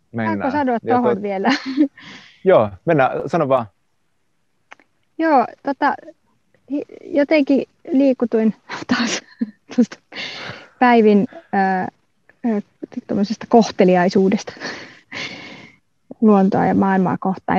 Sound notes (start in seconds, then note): 8.7 laughs